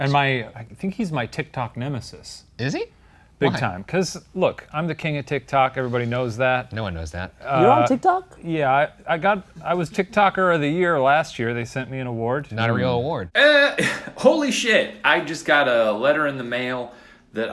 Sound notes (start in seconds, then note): 13.7 chuckles